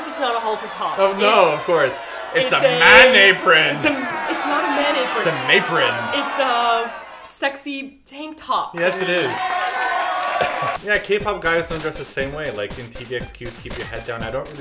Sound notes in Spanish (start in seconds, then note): 0.0 abucheos de fondo; 3.9 más abucheos